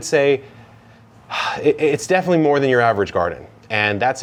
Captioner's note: sighs